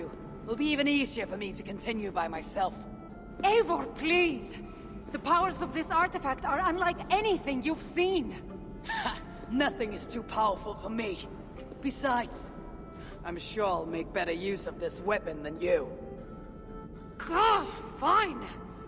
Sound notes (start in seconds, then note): 8.8 laugh